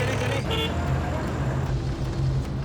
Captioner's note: horn honks